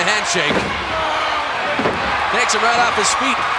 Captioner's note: audience cheering